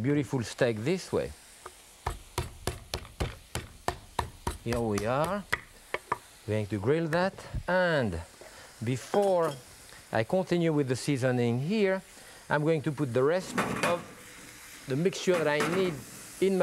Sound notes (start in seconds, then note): 2.1 pounding